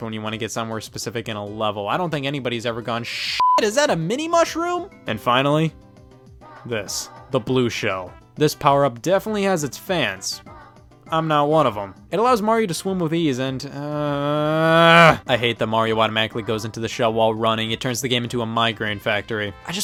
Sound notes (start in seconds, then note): 3.1 beep; 13.7 man groans